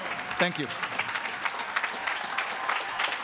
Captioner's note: cheers and applause